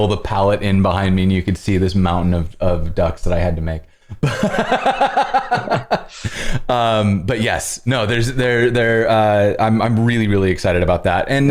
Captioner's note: laughter